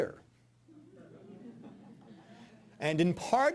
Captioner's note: audience laughing